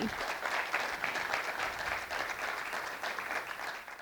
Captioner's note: applause